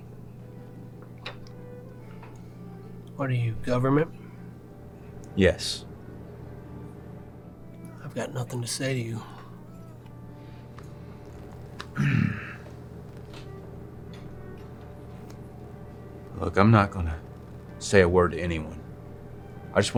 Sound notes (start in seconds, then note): 11.9 clears throat